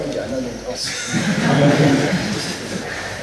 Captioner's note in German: Schüler lachen